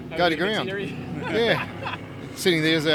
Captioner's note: chuckles